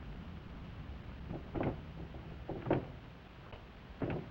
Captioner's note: door rattling